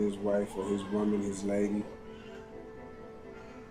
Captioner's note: baby wailing